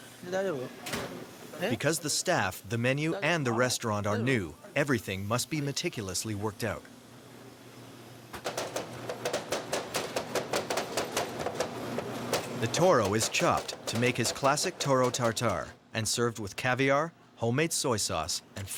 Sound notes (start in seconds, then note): 0.5 speaking in foreign language; 8.6 knives chopping